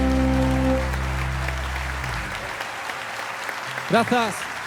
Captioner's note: applause